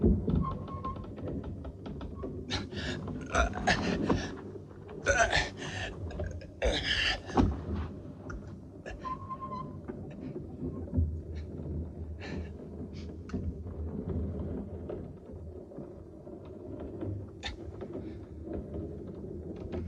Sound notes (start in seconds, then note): 4.9 groaning; 9.9 wood creaking